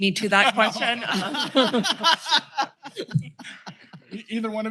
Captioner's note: laughter